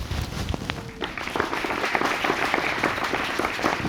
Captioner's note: audience applauding